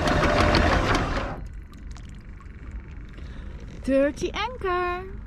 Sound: motor stops

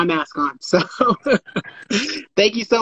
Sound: both laughing

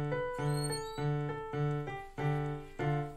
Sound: door creaks open

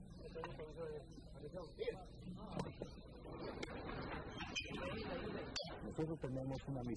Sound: non-English narration

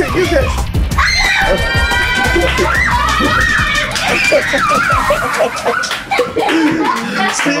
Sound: everyone cheering

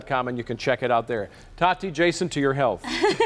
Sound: laughter

